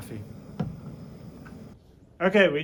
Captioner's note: bottle thuds